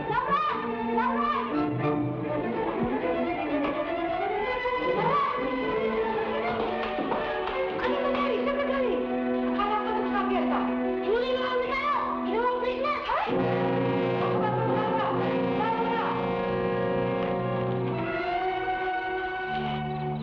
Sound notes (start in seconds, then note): 7.9 people speaking in Tagalog; 16.7 suspenseful music